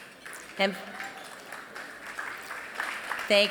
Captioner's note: applause